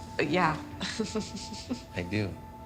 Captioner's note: chuckles